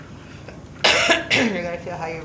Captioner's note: coughs